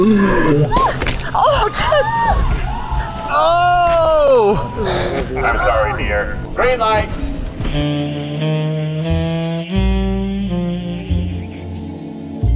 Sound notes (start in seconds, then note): 1.5 everyone yelling